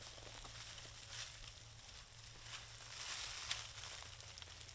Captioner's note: leaves rustling